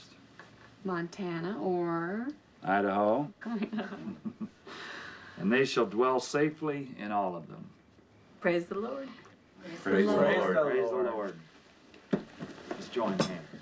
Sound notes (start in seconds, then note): 3.5 chuckling